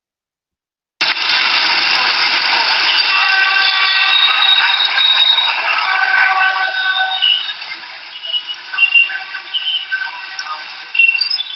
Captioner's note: traffic noise